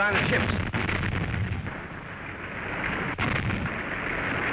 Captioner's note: loud explosions